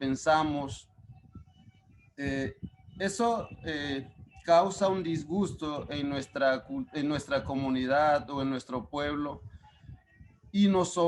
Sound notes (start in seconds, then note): 2.1 speaking Spanish; 10.4 speaking Spanish